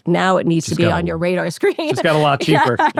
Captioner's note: laughs